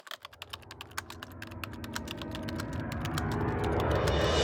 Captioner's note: typing sounds